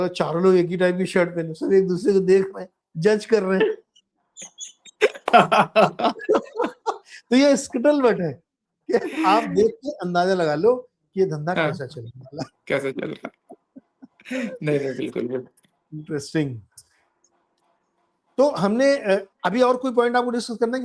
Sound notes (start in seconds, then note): 4.8 laughter